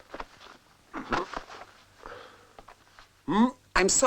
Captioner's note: groans